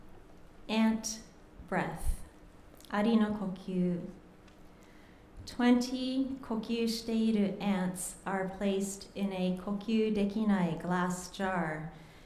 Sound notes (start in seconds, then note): 2.9 speaking japanese; 9.4 speaking japanese